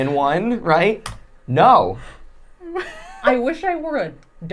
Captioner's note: laughing